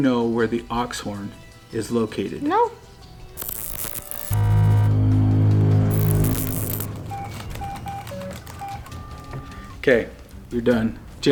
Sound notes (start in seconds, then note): 3.3 detector buzzes; 5.6 ominous tone; 7.7 keyboard beeps